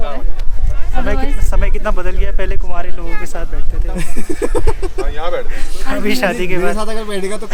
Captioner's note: laughs